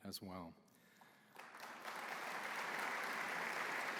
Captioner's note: applause